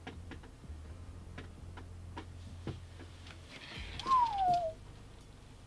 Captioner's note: whistling whew